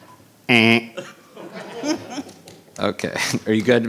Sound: all laughing; imitating buzzer

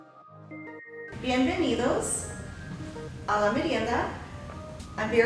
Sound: speaks in spanish

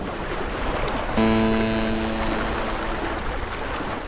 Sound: ship horn

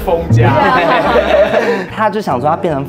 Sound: laughing even though it's not funny

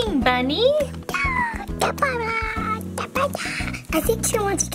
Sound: squeaking

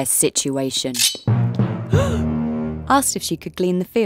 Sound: dramatic music; Naomi gasping

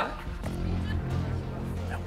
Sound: I'll be throwing Haha's

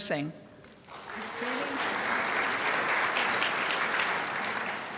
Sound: crowd applauds

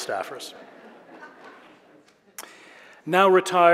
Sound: audience laughing

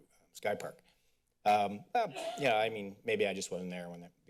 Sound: coughing

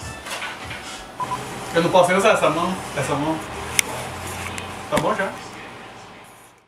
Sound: in Portuguese

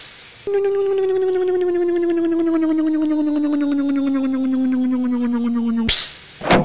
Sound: hiss; electric motor hum; hiss; click

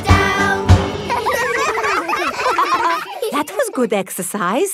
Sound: all giggling

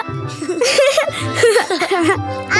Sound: laughing

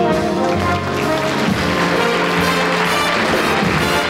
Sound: audience applauding

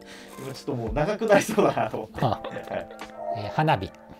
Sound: laughing

